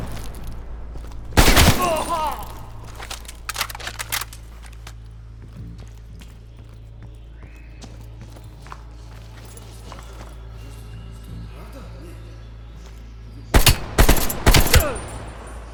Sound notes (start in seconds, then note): 2.4 gun cocks; 8.5 gun fires